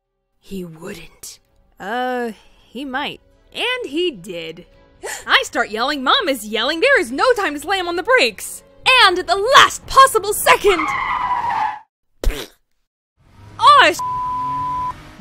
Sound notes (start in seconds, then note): 4.8 gasp; 10.2 tires screeching; 12.2 splat!!